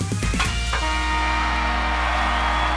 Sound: buzzer sounding

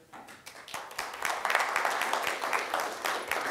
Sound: applause

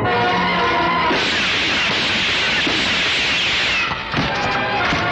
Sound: gun Firing

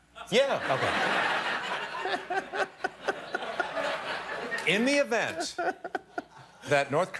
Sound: laughter

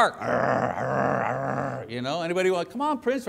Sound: growling

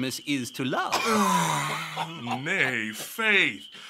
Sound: laughter

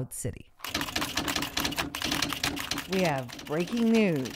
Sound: typewriter keys clacking

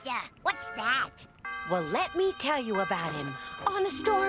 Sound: bell chiming

